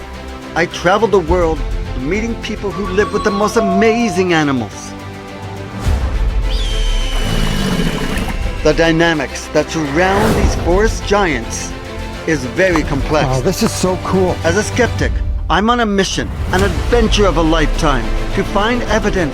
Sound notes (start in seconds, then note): 4.9 animals roaring; 4.9 intensifying music